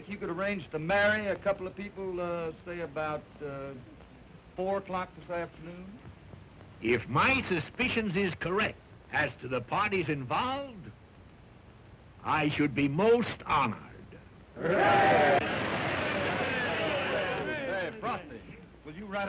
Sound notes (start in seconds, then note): 14.5 crowd; 14.6 cheering